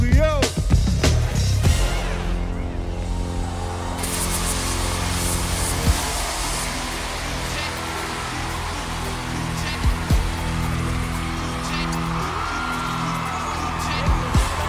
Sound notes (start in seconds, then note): 4.2 cheering